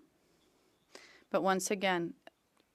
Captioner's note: speaking French